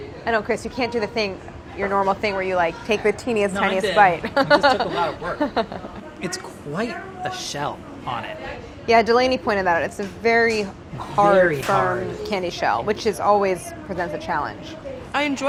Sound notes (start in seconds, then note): 4.1 laughing